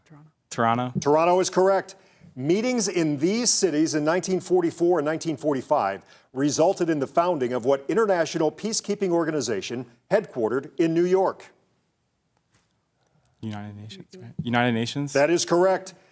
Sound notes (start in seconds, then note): none